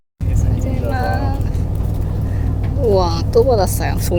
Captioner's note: laughs